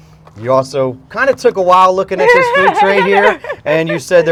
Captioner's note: laughter